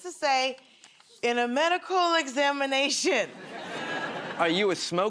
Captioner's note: nervously